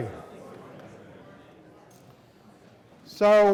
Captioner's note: students chattering